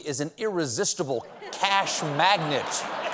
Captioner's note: laughter; applause